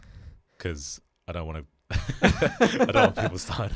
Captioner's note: laughs